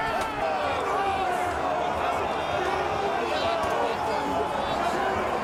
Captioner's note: crowd yelling continues